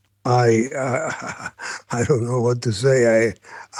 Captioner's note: laughs